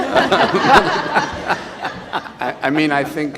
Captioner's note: all laugh